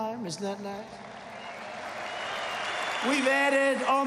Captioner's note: applause